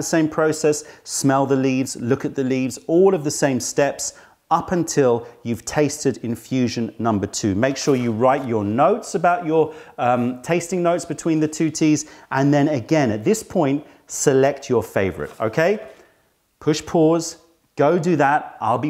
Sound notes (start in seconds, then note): 9.2 tasting